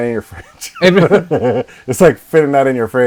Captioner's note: laughing